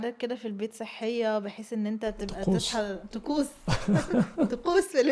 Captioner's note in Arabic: ضحك